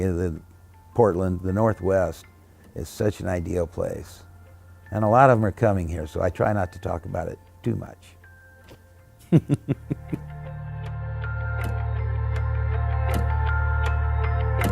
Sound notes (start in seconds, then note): 9.3 laughs; 12.1 happy music